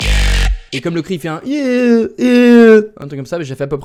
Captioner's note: poor imitation of the scream